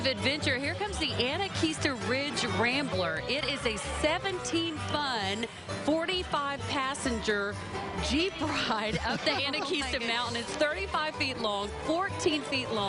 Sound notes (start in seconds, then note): 10.2 laughing